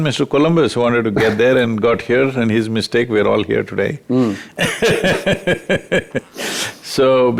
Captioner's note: laughs